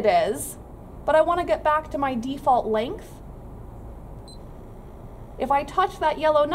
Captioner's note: beeping noise